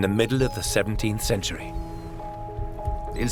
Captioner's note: waves and gulls sound